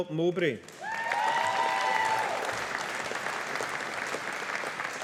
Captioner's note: audience applauding